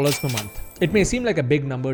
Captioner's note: cash register rings